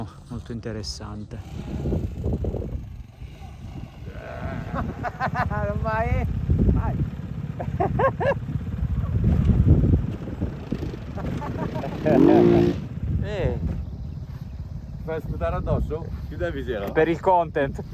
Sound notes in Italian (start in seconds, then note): 7.5 risate